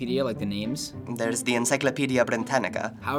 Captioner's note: odd accent